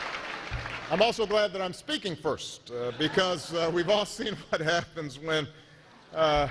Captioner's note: laughter